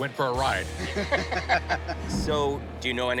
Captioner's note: laughter